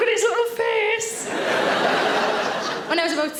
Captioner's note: audience laughing